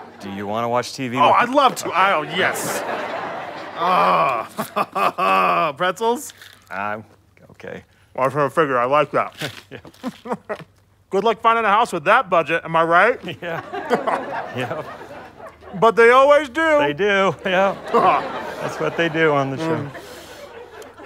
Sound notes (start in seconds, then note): 8.2 warbled; 9.4 light chuckle